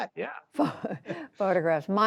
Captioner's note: laughter